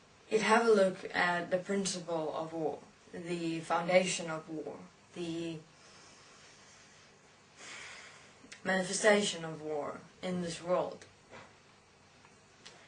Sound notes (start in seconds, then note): 7.6 sigh